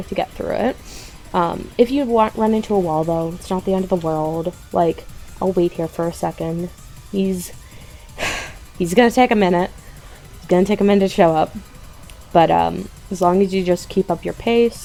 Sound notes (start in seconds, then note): 7.9 sigh